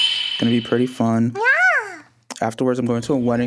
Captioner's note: chibi girl coos